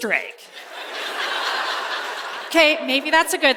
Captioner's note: laughter